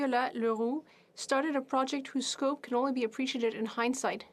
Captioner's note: speaking French